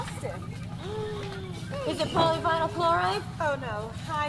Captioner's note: gasps